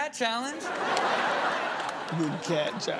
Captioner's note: audience laughs